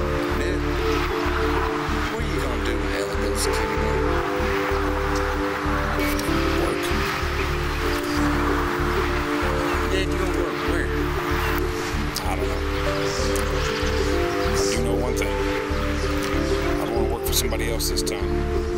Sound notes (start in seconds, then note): none